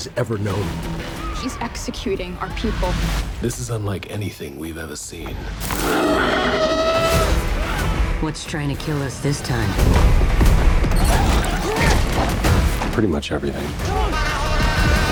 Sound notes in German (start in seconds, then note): 5.6 Bestie brüllt; 9.9 Rockmusik